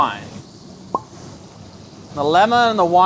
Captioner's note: wine pops